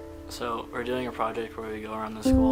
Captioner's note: voiceover